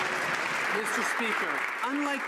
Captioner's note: some Applause